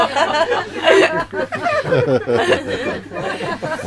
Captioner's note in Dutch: Gelach